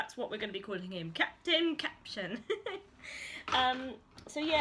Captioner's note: laughs